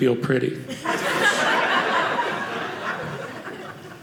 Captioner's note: audience laughing